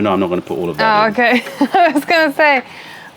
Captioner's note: laughter